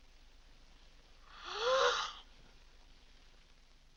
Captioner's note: gasps